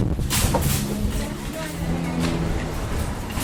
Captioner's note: traffic noises